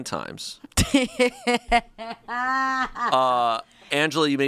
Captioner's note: laughs